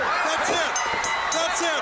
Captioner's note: bell ringing